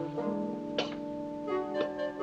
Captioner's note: coughing